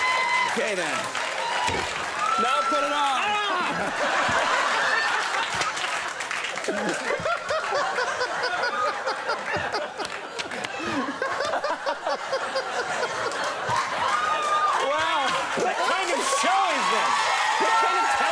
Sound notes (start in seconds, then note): 5.3 audience laughs; 8.2 Tom laughing